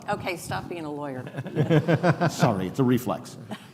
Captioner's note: laughing